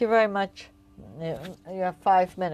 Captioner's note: speaking French